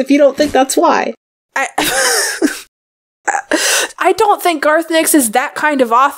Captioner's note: laughs